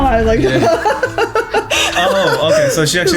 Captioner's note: laughs